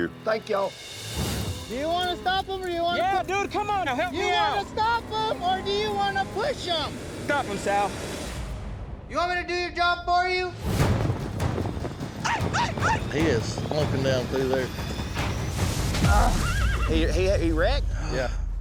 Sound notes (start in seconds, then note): 12.0 yelling; 16.2 groan, horse neighs